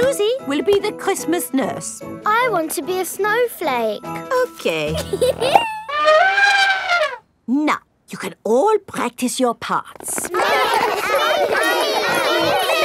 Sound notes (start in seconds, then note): 4.9 giggles; 5.9 trumpets; 10.2 all laughing and chattering